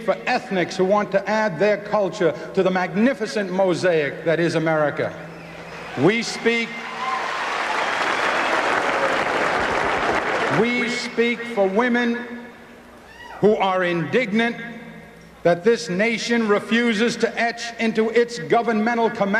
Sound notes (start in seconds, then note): 6.8 applause